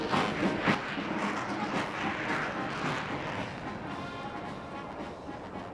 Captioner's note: victorious music; plane engines rumbling